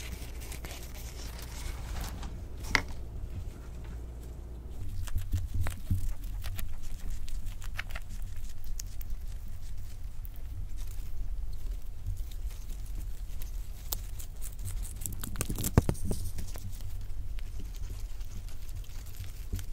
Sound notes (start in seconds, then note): 5.2 hamster noming grass